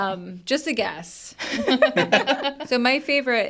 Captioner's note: participants laughing